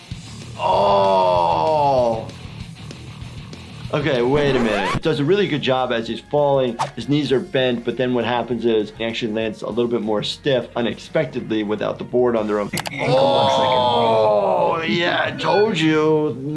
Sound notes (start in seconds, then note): 4.2 record screeching; 12.9 computer mouse clicking